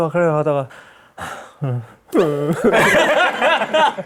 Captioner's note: sigh; sobbing